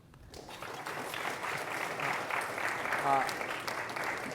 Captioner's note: applause